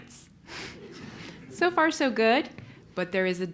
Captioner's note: laugh